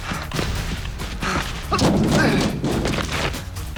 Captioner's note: grunting